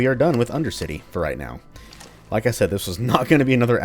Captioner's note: chuckles